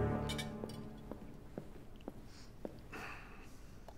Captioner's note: footsteps